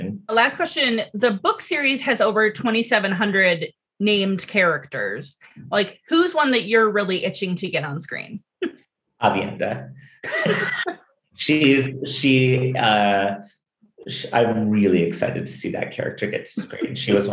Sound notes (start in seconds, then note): 10.2 both giggling